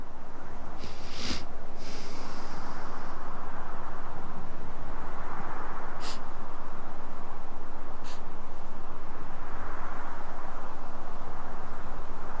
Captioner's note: sniffing, wind